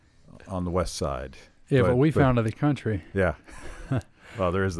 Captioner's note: laughs